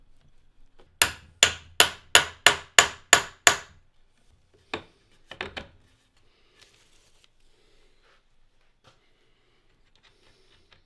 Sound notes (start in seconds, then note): 1.0 hammer banging